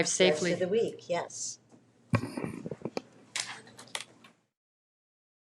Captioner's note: mic rustling